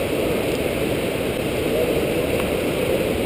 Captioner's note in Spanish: Fuerte torrente de agua